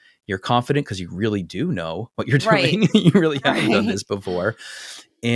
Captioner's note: laugh